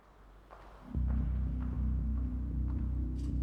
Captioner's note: footsteps approaching